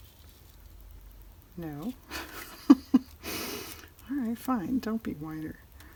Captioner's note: laughs